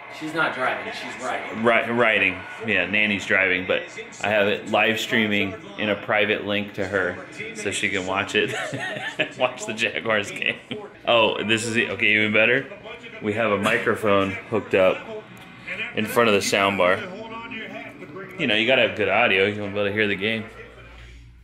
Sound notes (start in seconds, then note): 8.4 laughter